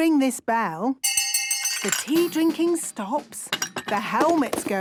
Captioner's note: hand bell ringing; tea cups clinking